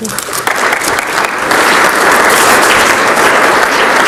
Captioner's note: audience clapping